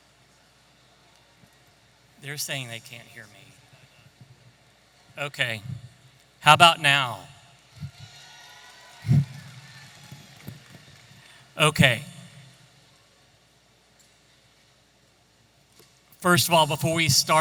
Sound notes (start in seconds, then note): 7.8 audience applauding and cheering